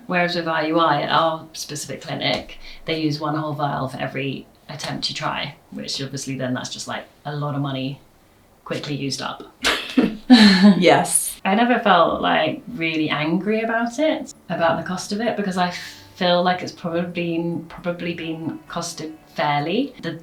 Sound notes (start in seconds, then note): 9.7 laughs